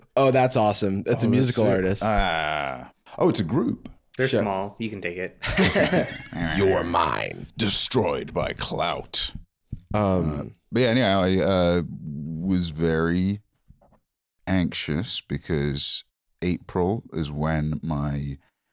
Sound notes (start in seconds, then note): 6.4 deep voice